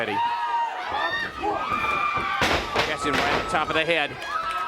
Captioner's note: crowd chatter